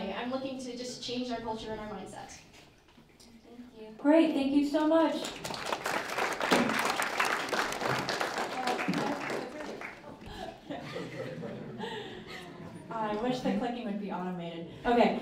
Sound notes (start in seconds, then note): 5.2 applause